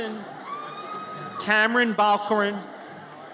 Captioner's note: audience cheers